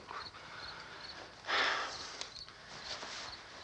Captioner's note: sighs